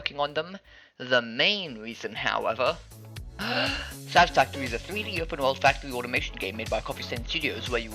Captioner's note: big inhale